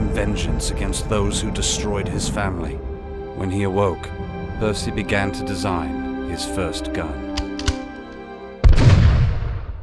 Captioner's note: gunshot